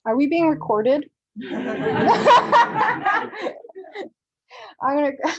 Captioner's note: laughter